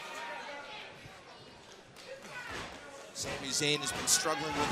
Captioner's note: crowd chatter